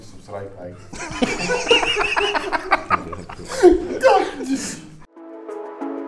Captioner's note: laughing